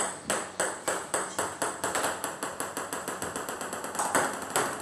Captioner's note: ball ping pong hitting continues